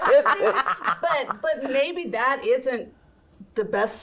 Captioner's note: everyone laughing